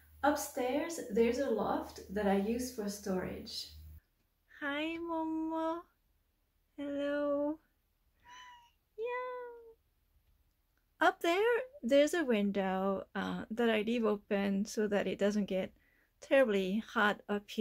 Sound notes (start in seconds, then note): 8.2 meow